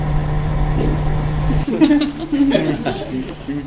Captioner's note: everyone laughs